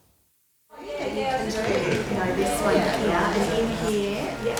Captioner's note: group chattering